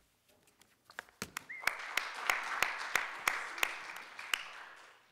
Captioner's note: audience applause